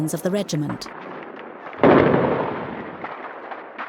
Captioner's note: booming